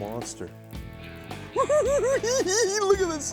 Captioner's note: laughs